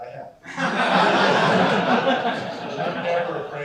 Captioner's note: laughter